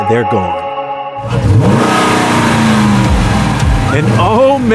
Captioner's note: revving